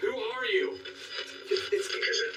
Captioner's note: distortedoice on device